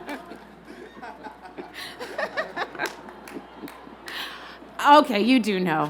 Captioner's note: laughter